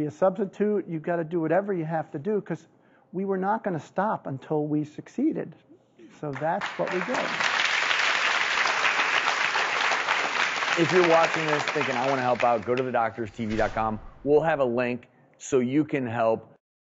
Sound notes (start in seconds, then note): 6.3 clapping